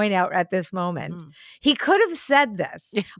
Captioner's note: laughs